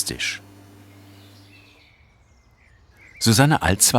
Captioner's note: birds chirping